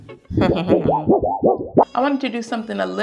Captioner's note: chuckles; metal sheet wobbling